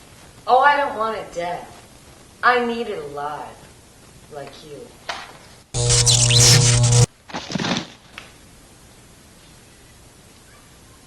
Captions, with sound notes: Oh I don't want it dead. I need it alive. Like you. [ zap ] [ thunk ]